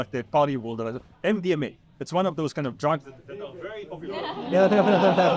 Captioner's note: audiences laughs